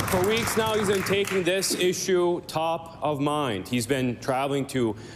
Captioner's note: applause